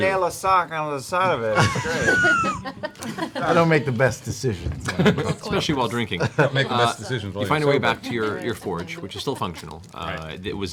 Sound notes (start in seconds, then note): 1.5 laughter